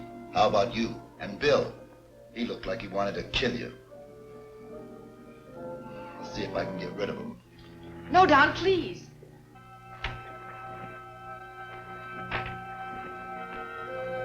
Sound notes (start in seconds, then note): 10.1 door opens; 12.2 door closes